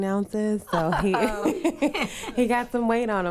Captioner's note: laughing